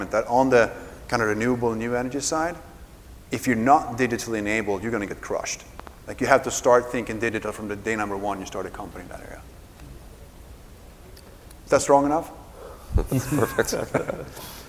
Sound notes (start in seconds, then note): 12.9 laughs